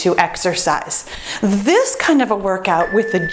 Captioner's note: timer beeps